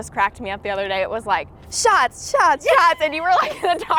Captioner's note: laughs